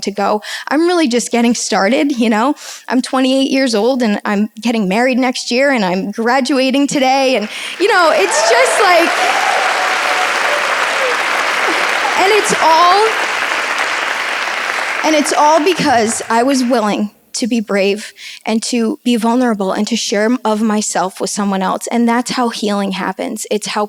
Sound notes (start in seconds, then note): 9.4 audience applauds